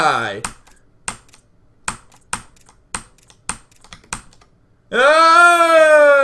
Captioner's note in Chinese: 敲 敲 敲 敲 敲 敲